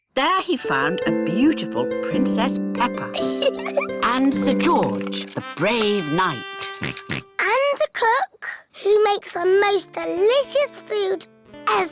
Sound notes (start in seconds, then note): 3.1 chuckles; 6.7 oinks